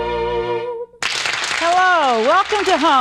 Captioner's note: audience applauding